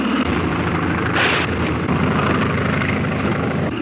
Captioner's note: gunshot